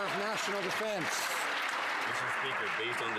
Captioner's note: some Applause